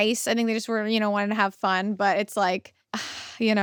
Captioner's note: sighs